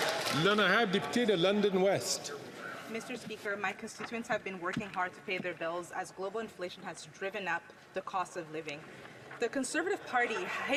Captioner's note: some Applause